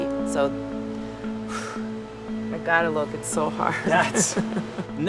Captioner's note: sobs